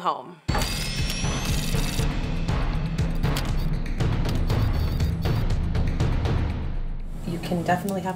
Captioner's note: drilling, sound effects, drum beat